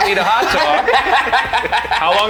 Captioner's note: all laughing